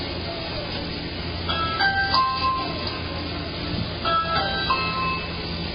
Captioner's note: Ring doorbell chime plays